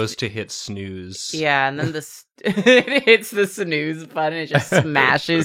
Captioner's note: laughs